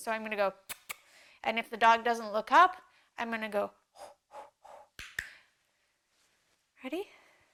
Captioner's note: makes a breathing noise; makes a breathing noise